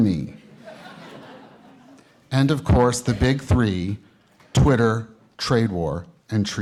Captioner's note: laughter